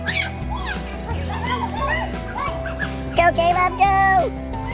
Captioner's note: kids screaming